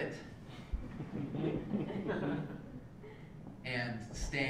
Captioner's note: laugh